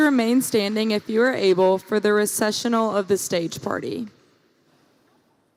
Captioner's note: applause